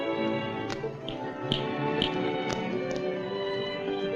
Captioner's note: snaps fingers